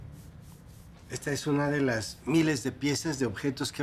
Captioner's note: speaking Spanish